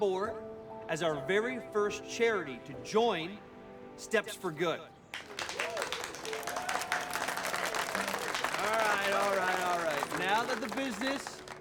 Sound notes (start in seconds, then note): 5.1 cheering and applause